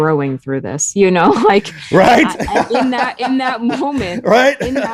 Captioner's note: laughing